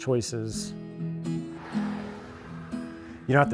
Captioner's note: vehicle swooshing